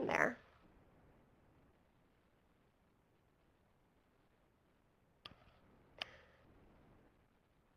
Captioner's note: pause